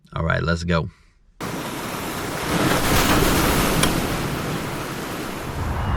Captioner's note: beach waves crashing